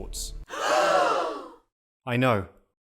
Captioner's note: gasp